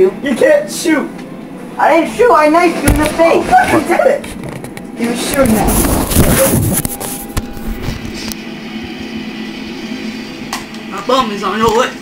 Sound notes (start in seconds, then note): none